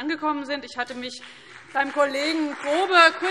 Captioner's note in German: Beifall CDU, BÜNDNIS 90/DIE GRÜNEN und SPD